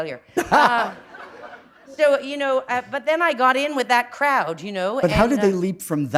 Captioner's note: laughter